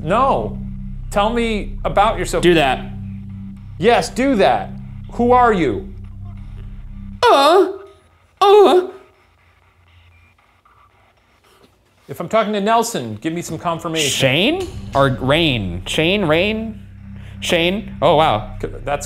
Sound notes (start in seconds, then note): 7.2 moaning